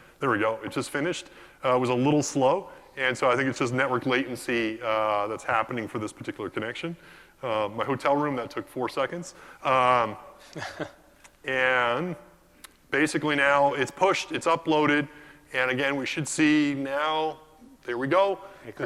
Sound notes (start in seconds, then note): 10.4 laugh